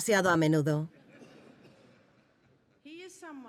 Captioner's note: audience laughing